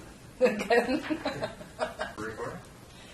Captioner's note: laughing